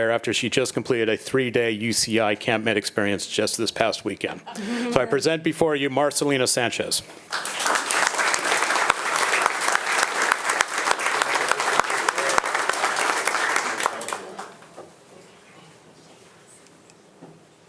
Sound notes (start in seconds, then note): 7.2 attendees applauding; 11.5 board members and attendees speaking faintly